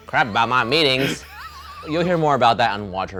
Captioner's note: laughing